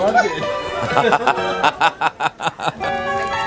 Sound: laughter

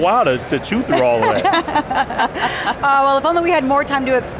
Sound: laughing

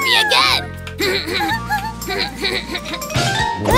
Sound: laughts

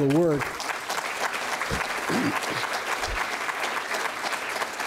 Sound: applause

